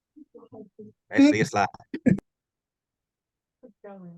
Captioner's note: indistinct conversations